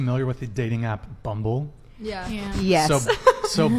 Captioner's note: laughs